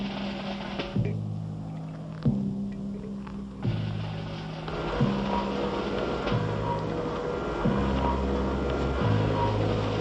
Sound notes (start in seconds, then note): 2.4 bomb hums